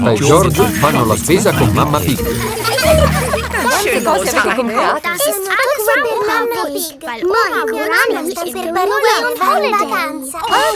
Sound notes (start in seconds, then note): 2.2 laughing